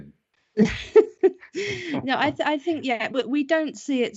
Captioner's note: laughs